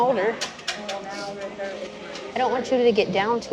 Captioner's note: sniffles